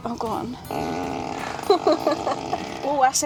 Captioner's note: flatulence Sounds